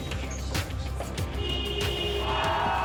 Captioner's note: horn honking; crowd cheering, screaming